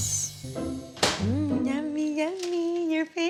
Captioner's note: baby-talking